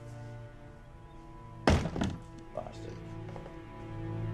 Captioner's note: door banging